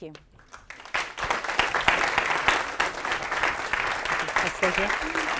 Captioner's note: applause